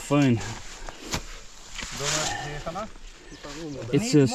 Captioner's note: grass rustling